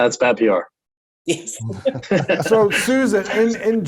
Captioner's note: laugh